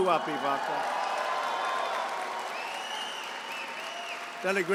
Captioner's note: applause